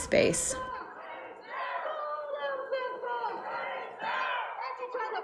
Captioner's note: protestors chanting